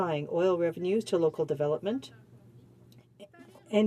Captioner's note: french